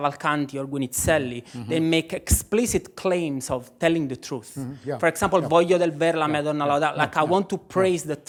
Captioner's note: non-english